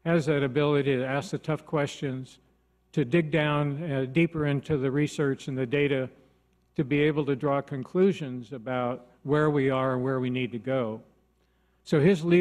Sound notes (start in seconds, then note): none